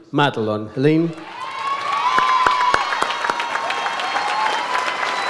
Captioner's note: audience applauds